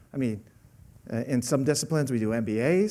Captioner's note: none